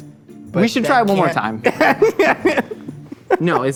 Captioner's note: laughs